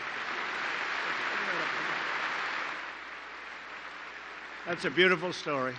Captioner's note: applause